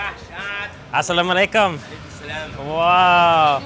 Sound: speaking in foreign language

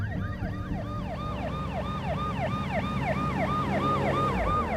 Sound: police siren wails

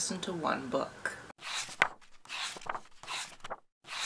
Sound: pages turning

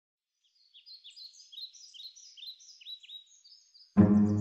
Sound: birds chirping

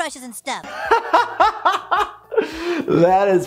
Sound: laughing

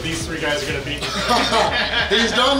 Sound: laughing

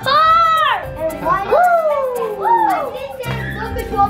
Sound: cheering

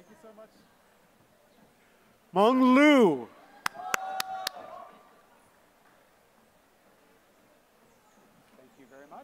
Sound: applause

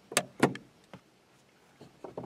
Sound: light turns on

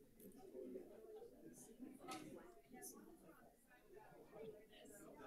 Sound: crowd chattering

